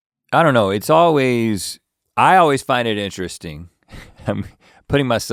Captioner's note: chuckles